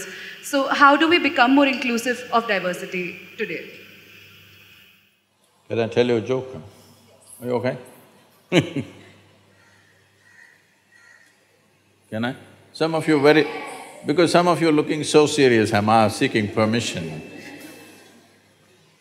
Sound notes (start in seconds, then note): 8.5 laughs; 17.4 laughter